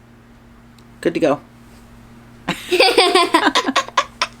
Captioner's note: both laughing